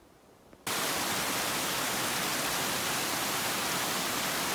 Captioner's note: sound of running water